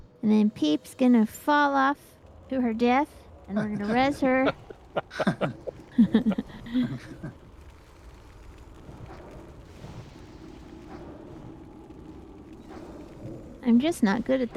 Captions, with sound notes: and then Peep's going to fall off to her death, and we're going to res her." [laughter] [wind howling] I'm just not good at